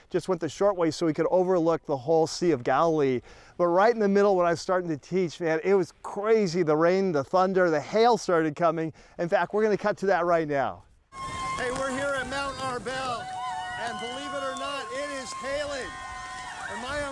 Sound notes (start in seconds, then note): 11.1 rain splattering and people cheering; 15.9 people chattering and cheering